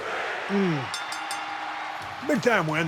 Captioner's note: bell dings